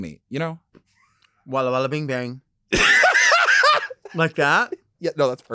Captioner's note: laughing